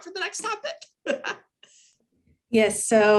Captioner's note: laughs